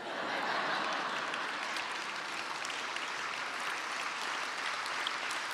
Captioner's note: audience applauding